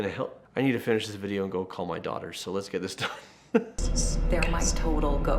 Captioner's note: chuckles